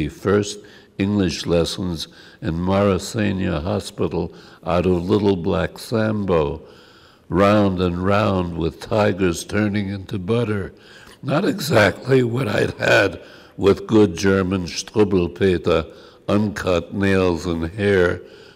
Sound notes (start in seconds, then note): 15.2 german